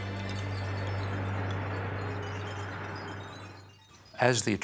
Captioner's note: somber music; garbage clinking